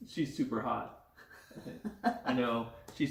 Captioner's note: laughs